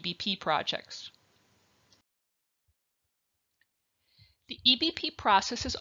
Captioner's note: silence